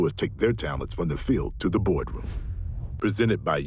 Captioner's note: logo whooshing